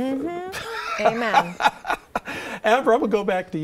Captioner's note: laughs